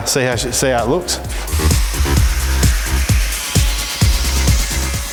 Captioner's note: grinder whirring